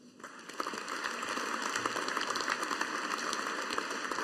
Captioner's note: audience applauding